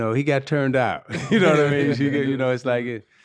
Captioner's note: laughing